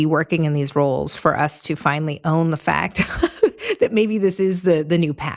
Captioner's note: laughs